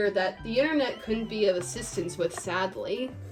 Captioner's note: none